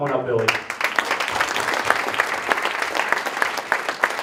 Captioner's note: applause